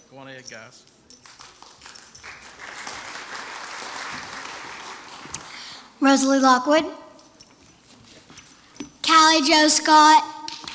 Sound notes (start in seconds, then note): 1.2 applause